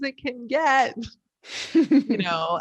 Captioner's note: chuckling